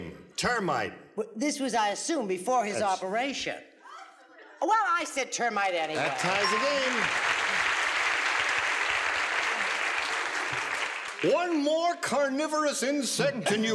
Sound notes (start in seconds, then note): 5.9 applause